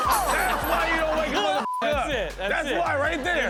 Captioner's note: woman cackles; beep